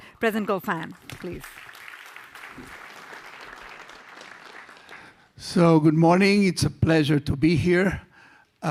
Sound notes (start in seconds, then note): 3.4 audience applause